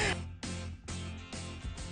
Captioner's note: laughs